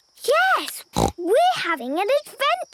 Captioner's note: snort